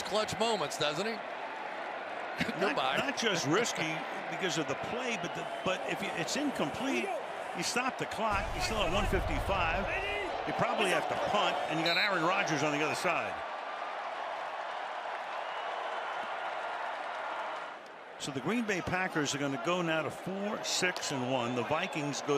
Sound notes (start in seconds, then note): 14.0 crowd cheering